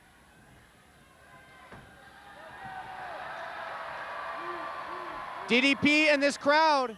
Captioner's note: applause